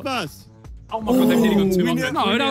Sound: players moan

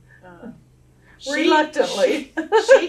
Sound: laughs

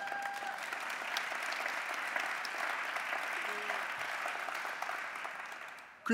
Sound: applause

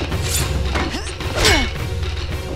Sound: grunting

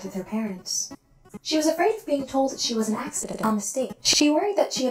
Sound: glitch

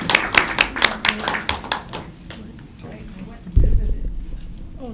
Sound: clapping

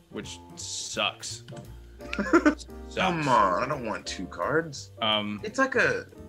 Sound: laugh

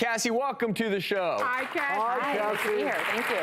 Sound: audience applause

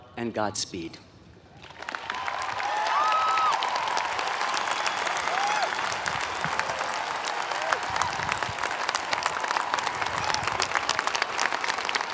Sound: applause

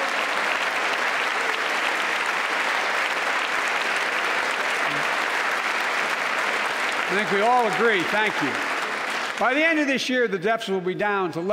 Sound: applause

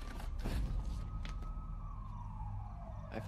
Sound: SIRENS WAlLlNG IN DISTANCE

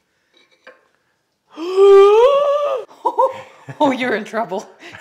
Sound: wife gasps

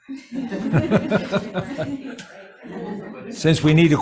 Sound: everybody laughs

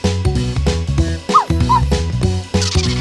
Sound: woofs

